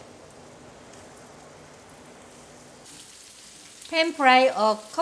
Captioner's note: food sizzling